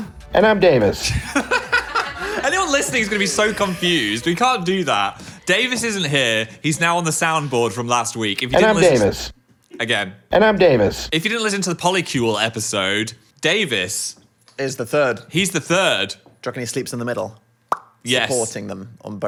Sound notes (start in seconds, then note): 1.0 both laugh; 17.7 lips pop